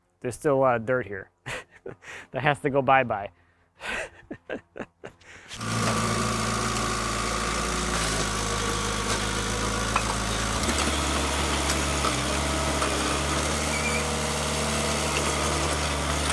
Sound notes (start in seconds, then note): 3.8 laughing